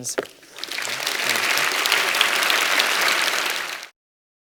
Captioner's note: applause